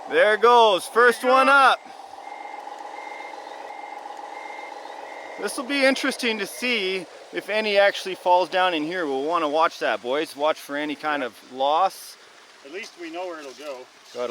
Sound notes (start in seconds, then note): 2.2 mechanical beeping